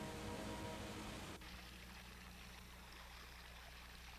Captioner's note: water drizzling